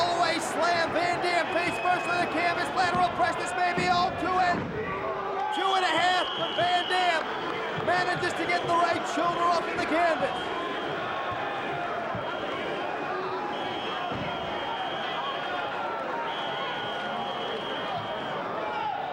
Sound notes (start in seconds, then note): 4.7 crowd groaning; 5.5 whistle blowing; 13.6 whistle blowing